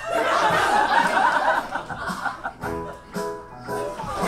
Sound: audience laughs

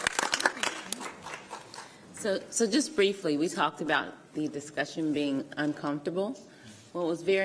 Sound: applause

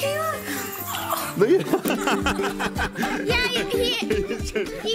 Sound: upbeat, playful music; all laugh

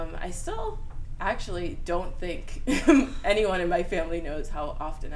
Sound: laughs

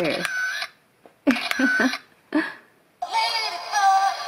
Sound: camera click; giggle; camera clicks

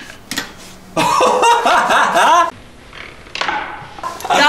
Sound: laughs

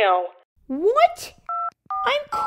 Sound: dialling

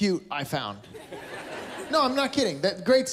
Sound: laughter

